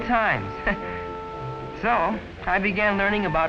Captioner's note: chuckling